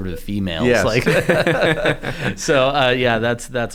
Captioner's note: laughing